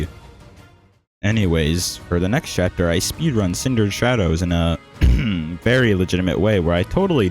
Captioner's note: cough